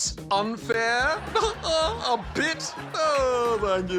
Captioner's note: chuckles